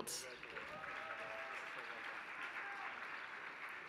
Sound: applause

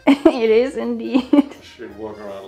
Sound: chuckles

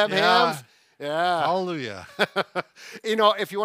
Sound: laughs

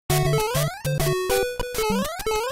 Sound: beeps n blips

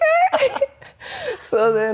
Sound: laughs

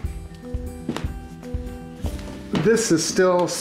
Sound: thumping

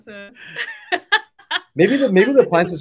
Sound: laughs

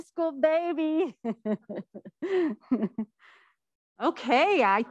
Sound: laughing

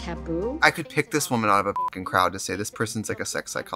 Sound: beep

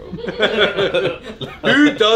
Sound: laughing

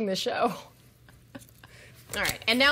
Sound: chuckles

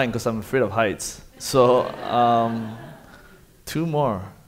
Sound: audience laughing

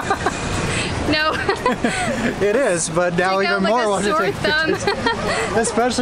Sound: laughter; laughter

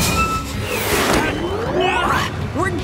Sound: grunting

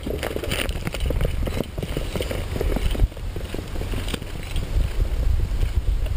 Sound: panther galloping

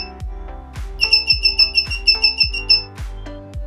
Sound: beeping Sound

